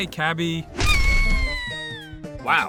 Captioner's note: cabby screams